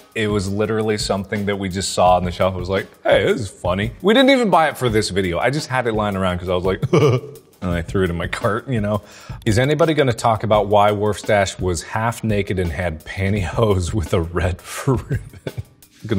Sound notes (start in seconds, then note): 6.8 laughs